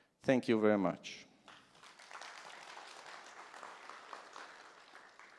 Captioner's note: applause